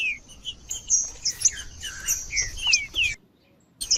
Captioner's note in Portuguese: trinca ferro cantando